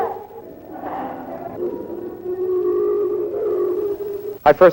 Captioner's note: children cries, Screaming